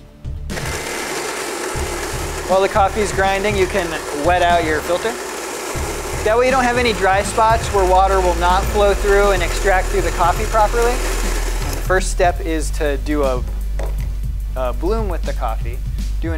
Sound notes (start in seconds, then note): 0.7 coffee grinder whirs